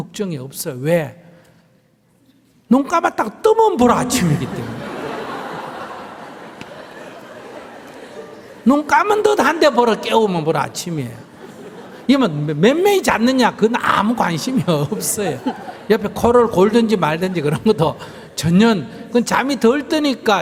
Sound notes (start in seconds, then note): 8.0 audience Laughter; 14.7 laughter